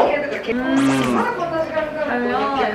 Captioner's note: Mmmm!